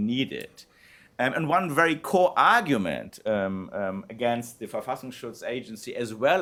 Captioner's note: non-english speech